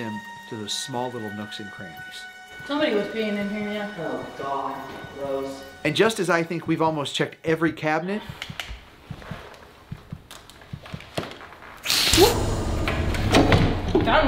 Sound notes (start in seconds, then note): 8.7 quiet heartbeat; 11.4 hissing